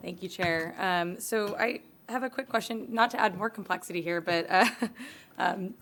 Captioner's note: laughter